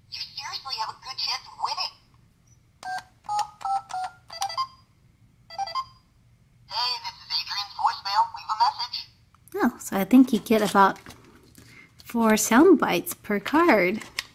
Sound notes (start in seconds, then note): 3.3 beeping; 9.7 voiceover